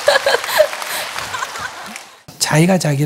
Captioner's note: audience laughs/claps